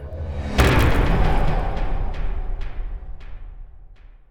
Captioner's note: impact